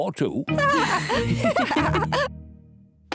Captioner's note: lady pigs giggle